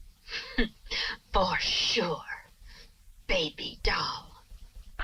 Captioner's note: chuckles